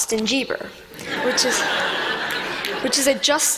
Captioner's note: laughter